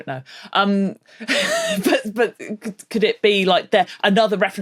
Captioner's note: laughs